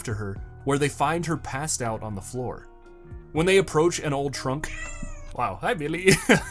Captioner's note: cat meows